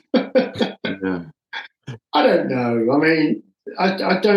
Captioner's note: laughing